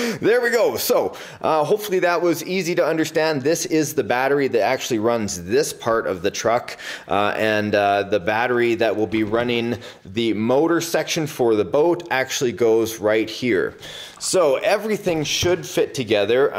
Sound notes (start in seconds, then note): none